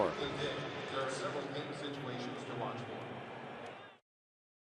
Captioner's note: pa announcement